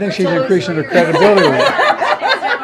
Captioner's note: laughter